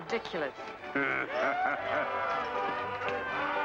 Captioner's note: Cyrus laughs